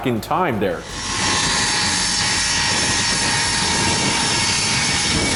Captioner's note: plane engine roaring